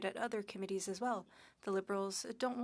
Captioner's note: speaking French